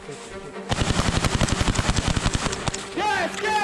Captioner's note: gunfire